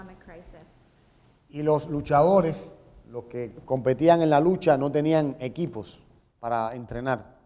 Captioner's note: speaking in Spanish